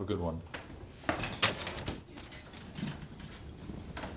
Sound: gurney rattles loudly

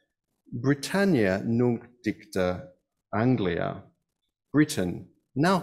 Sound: speaks in foreign language

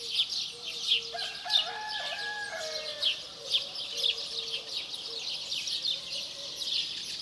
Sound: birds chirping; rooster crowing

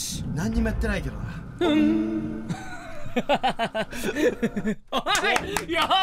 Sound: laugh

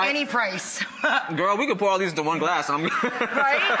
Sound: laughs

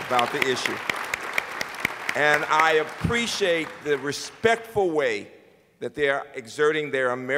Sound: applause

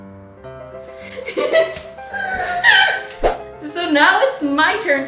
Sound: laughing

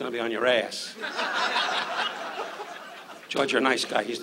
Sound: audience laughs

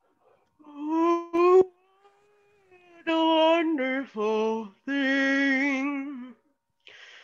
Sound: bear yawns; singing

